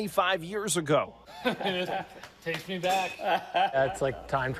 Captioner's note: chuckles; laughs